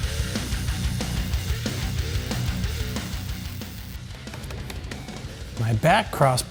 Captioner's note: tool whirring; intense rock music continues